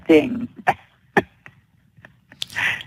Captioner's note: laughter